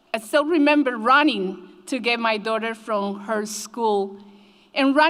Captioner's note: none